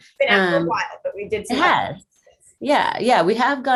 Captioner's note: murmuring